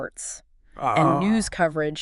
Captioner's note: moans